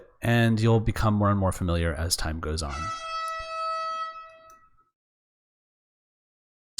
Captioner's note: horn from construction next door!